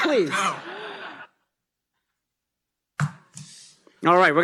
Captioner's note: laughter